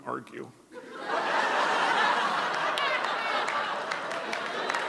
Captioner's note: audience laughs